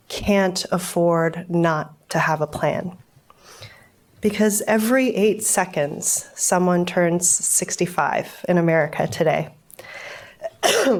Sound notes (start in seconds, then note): 10.4 coughs